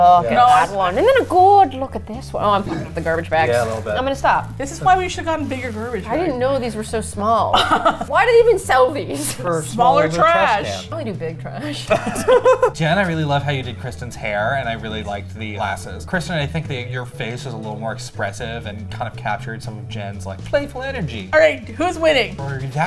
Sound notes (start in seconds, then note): 7.5 laughs; 11.9 all laugh